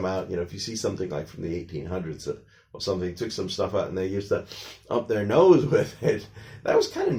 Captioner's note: sniffing sounds